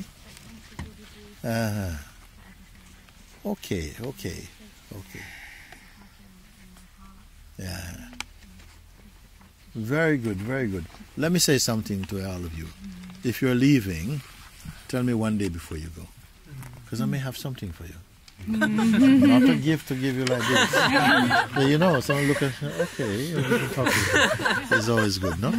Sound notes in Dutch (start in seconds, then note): 20.3 gelach